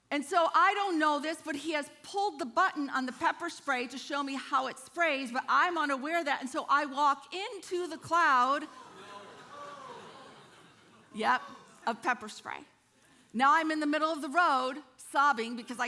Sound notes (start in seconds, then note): 9.2 congregation groaning